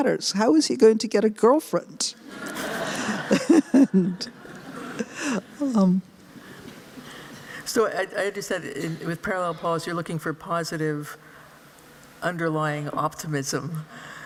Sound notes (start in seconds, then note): 2.2 laughter